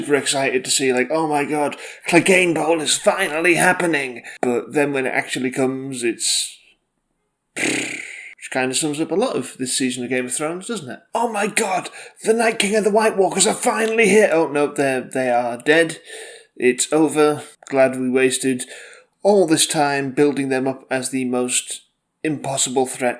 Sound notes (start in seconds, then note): 7.6 exasperated noise